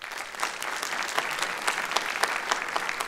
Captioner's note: applause